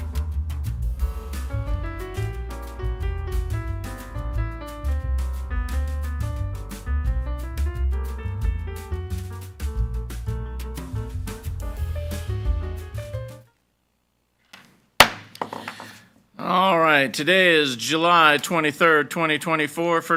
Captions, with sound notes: (gavel bangs) - All right. Today is July 23rd, 2024,